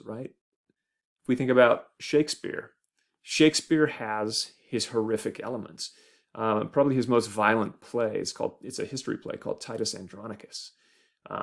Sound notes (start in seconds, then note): none